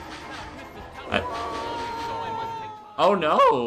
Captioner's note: aggressive train noises; Santa Claus cries out in agony